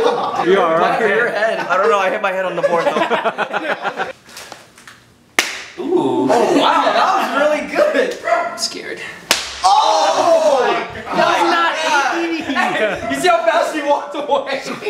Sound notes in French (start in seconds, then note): 5.0 Coup retentissant; 9.3 Coup bruyant; 9.6 gémissements